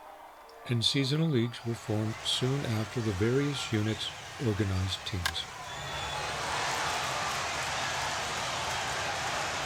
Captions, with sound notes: And seasonal leagues were formed soon after the various units organized teams. (ball thumps) (crew cheering)